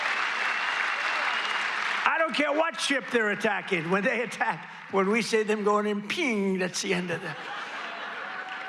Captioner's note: cheers and applause